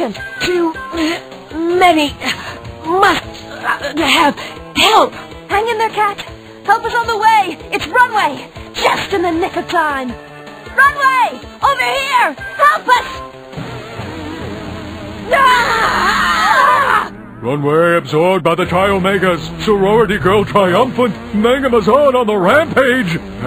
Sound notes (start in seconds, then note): 13.6 creepy techno music; 15.3 Covergirl and Catwalk scream